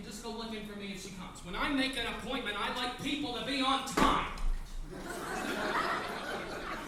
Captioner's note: slam